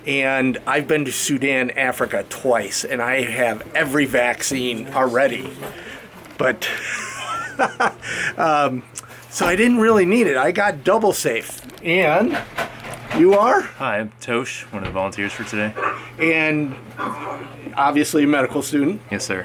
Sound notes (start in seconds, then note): 6.6 laughs